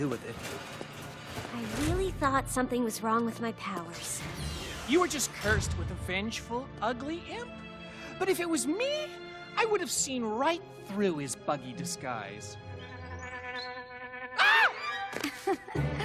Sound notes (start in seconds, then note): 12.9 buzzing noise